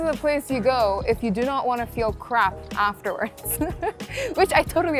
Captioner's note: laughing